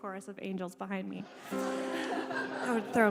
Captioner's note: crowd laughs